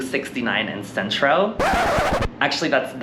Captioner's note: record screech